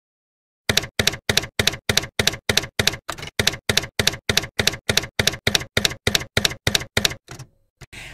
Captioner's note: typewriter keys clacking